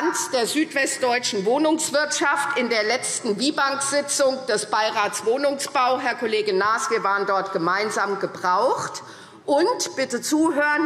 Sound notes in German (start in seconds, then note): none